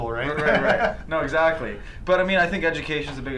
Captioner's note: laughs